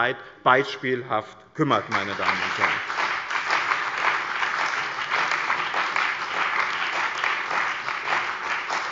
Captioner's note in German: Lebhafter Beifall bei dem BÜNDNIS 90/DIE GRÜNEN und der CDU